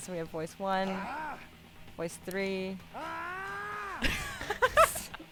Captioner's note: scream